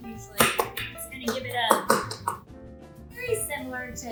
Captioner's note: knife chops loudly